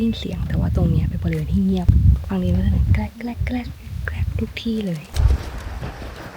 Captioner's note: crack crack crack